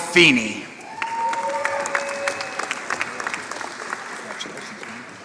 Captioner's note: applause